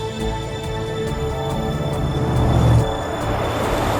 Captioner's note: engines revving